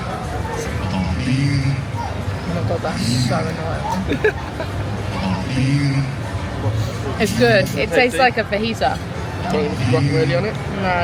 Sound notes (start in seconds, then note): 3.8 laughing